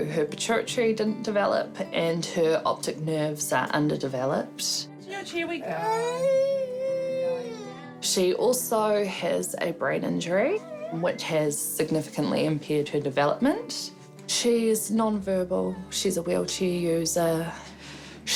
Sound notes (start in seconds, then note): 5.6 cries